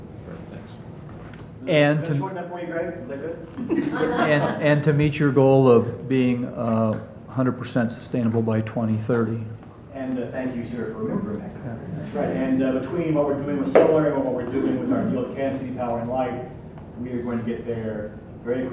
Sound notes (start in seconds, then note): 3.5 audience laughs; 11.6 speaking faintly